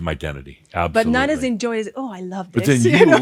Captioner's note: she chuckles